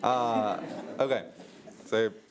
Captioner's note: audience laughs